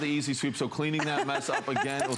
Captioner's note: laughter